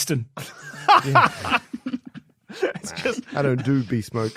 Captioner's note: laughing